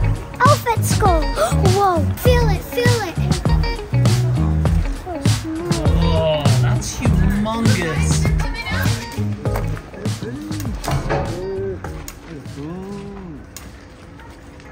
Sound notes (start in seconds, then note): 1.2 gasps; 4.1 upbeat music